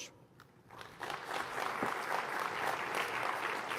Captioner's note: applause